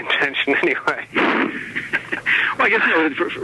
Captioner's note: both laughing